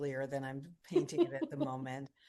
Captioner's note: laughs